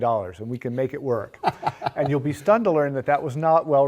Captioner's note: laugh